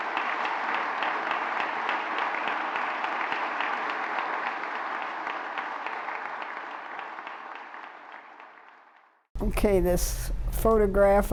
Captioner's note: applause